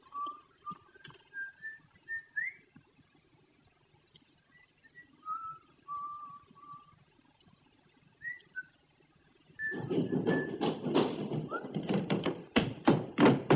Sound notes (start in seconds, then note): 1.2 whistling; 9.6 hurried footsteps